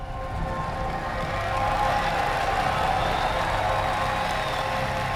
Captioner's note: applause